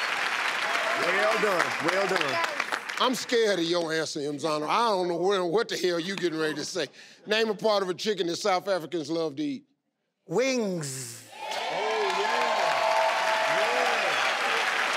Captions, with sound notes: - Well done. - I'm scared of your answer Mzamo, I don't know what the hell you getting ready to say. Name a part of a chicken that South Africans love to eat. - Wings. (crowd cheers)